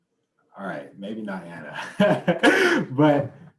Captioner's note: laughs